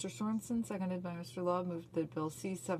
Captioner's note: speaking French